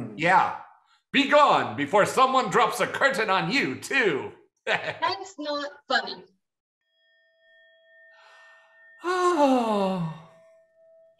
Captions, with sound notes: - Yeah, "Be gone before someone drops a curtain on you, too!" (chuckles) - That is not funny. (mysterious hum reverberating) - Oh!